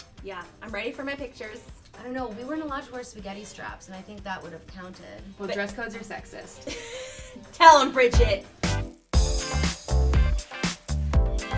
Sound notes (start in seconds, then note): 6.6 laughs; 8.7 upbeat music